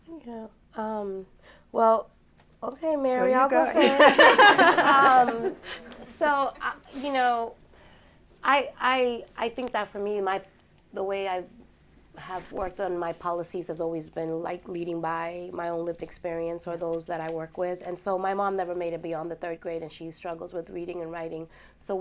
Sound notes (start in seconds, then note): 3.7 laughter